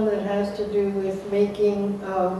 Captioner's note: Arabic; Vietnamese